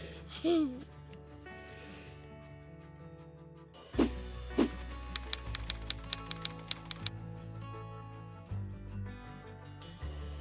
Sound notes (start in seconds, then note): 3.9 gentle music; 4.6 typewriter clacking